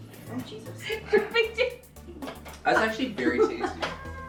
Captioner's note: laughing